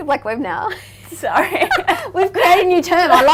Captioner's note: laughing